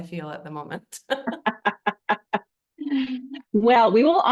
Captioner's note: laugh